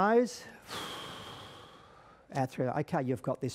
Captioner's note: exhales deeply